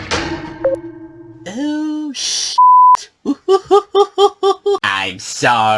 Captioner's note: giggles nervously